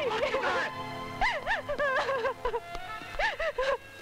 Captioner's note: Crying